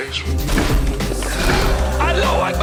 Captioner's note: cart crashing